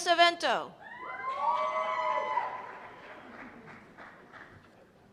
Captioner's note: cheers and applause